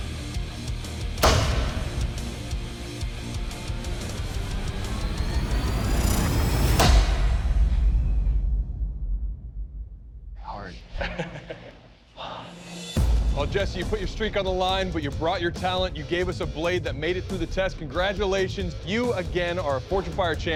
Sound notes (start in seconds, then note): 10.8 laughs; 12.1 exhales deeply